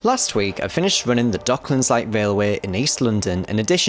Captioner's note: voiceover